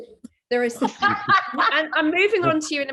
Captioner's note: laughs